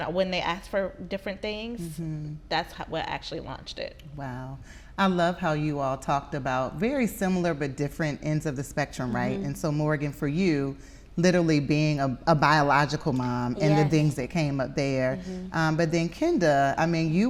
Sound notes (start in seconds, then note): none